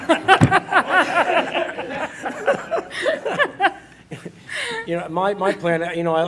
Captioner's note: laughing; laughs